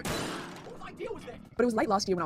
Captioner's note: crashing noise